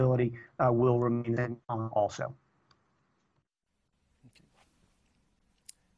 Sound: audio corruption

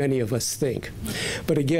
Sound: none

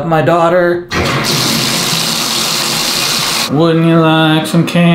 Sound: water running

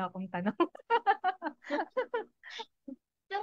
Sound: laughs

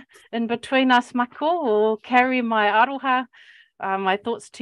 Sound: speaking Maori; speaking Maori

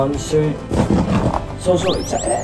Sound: own sound effects

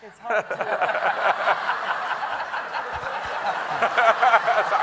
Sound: everyone laughing

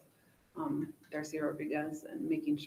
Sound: faintly speaking

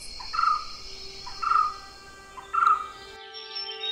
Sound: white-cheeked barbet call

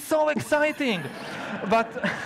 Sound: audience laughs

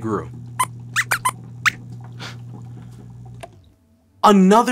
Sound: squeaks squeaks

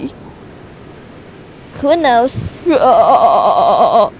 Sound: Shiryu: *laughing; laughing

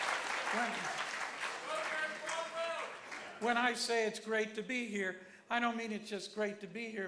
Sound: applause

